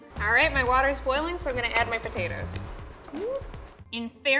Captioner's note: none